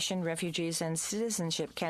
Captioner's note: speaking in french